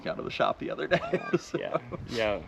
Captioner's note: laughs